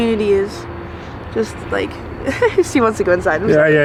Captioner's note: giggles